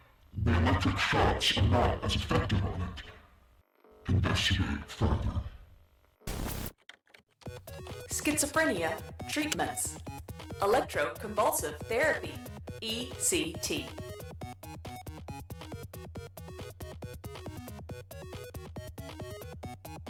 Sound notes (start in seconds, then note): 6.6 typing